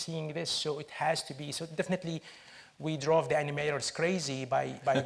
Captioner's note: chuckles